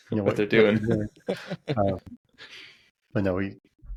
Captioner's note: laughing